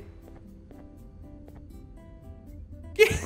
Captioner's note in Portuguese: risos